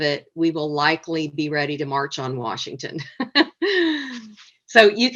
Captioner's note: laughs